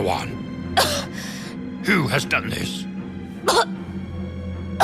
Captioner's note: victim coughs; victim coughing